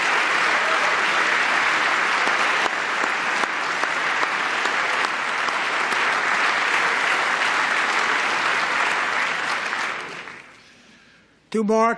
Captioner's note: applause